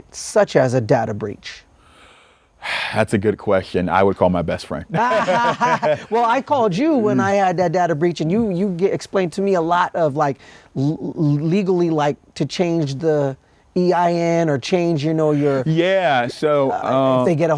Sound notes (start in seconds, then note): 4.9 laughing